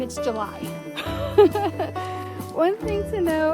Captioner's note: giggles